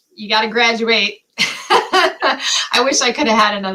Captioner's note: laughter